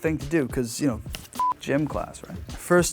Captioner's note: beep